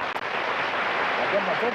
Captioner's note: applause